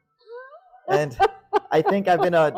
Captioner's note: laughs